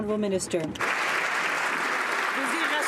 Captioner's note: some Applause